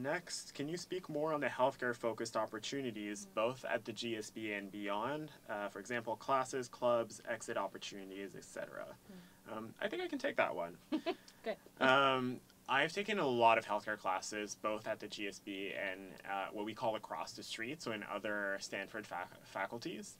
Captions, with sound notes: Next can you speak more on the health care focused opportunities, both at the GSP and beyond, for example, classes, clubs, exit opportunities, etcetera. I think I can take that one. >> [LAUGH] >> Good. >> I have taken a lot of healthcare classes both at the GSP and what we call across the street, so in other Standford faculties.